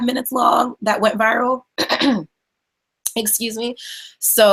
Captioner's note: clears throat